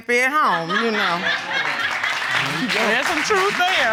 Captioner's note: audience cheering